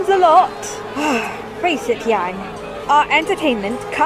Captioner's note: sighs